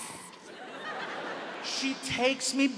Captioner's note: audience laughs